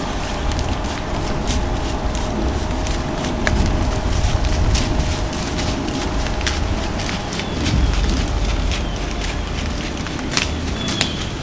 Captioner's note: sound of deer walking in water; sound of deer walking in leaves